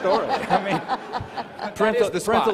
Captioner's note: all laughing